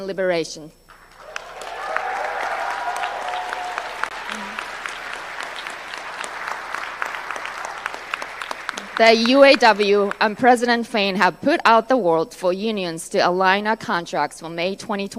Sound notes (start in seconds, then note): 6.3 applause